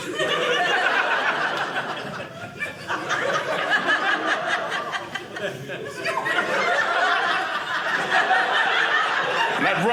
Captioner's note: audience laughing